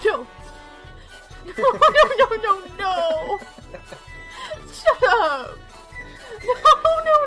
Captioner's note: laughing